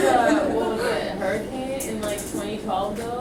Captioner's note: voiceover